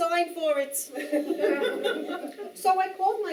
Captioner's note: audience Laughing